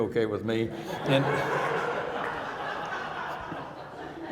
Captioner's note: audience laughing